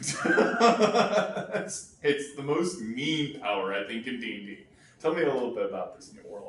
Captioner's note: laughs